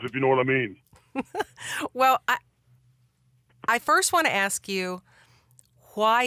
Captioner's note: laughs